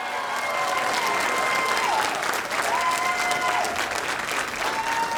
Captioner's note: audience applauding and cheering